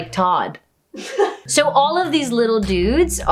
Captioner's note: laughing